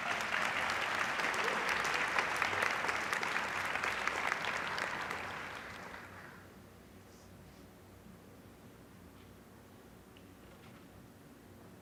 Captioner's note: applause